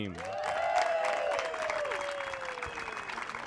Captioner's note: cheers